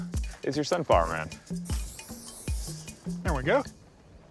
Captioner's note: air whooshing